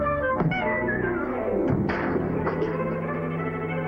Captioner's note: crash